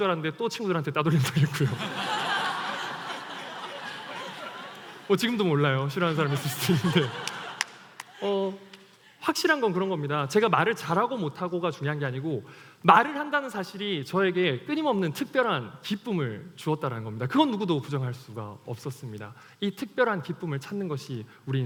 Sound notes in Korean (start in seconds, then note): 1.3 웃음